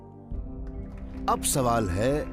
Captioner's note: applause